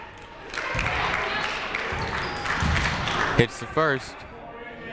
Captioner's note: crowd clapping; people shouting in the crowd